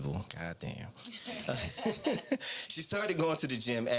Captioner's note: laughing